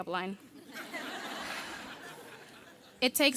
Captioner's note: audience laughing